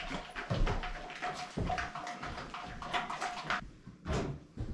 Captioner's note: footsteps